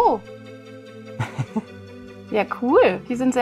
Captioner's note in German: Leises Lachen